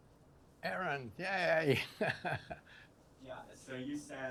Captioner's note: laughs